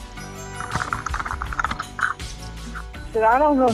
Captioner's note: sound of someone grabbing Chris's phone